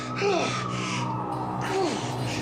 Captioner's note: sirens wailing